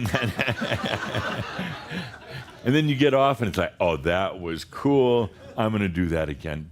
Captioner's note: laughter